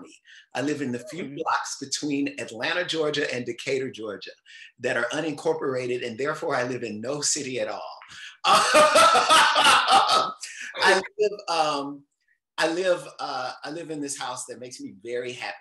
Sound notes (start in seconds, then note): 8.3 chuckles loudly